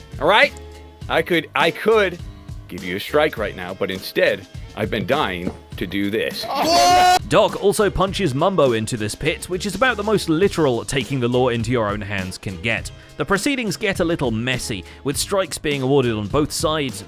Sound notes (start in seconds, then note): 6.8 shouts